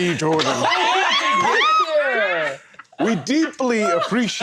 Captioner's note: laughter